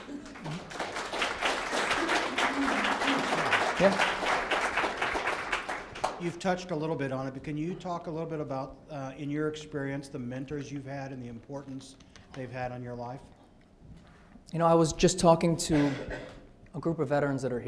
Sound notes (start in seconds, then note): 0.0 audience applauds